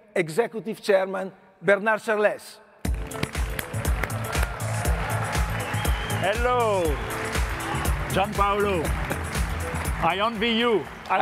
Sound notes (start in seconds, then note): 2.8 energetic music; 3.0 audience applauding